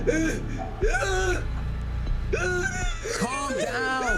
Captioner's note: Roy screaming